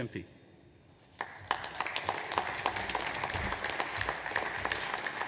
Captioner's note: audience applauds